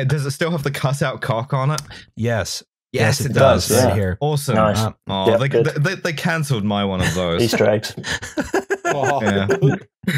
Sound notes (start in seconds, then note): 8.0 laughs